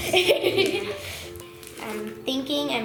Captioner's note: laughter